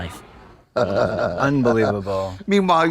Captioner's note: Trixie chortles